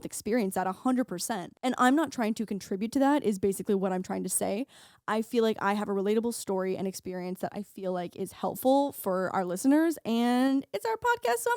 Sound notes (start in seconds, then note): none